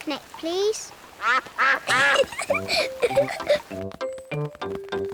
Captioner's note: quacks; giggles